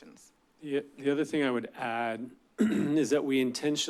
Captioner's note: clears throat